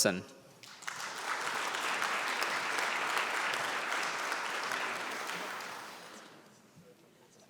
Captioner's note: applause